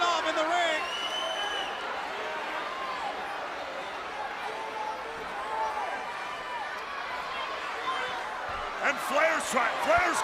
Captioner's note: crowd cheering